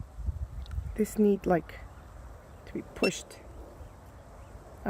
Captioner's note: beeps